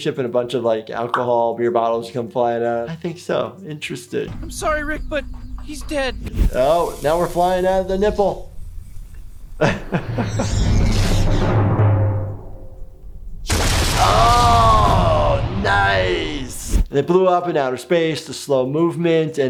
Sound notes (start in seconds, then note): 9.6 laughs; 10.9 dramatic music; 10.9 whooshing; 13.5 blasting